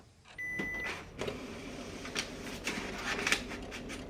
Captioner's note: copier beeping